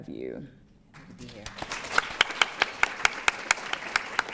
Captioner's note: applause